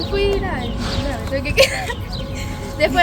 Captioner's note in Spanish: risas